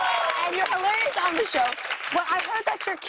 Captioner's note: cheers and applause